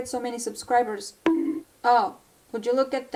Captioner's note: bonk